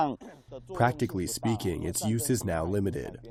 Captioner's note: through translator